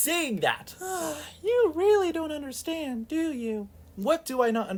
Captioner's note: sigh